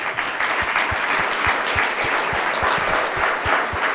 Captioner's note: audience applause